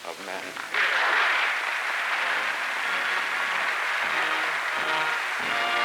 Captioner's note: applause and music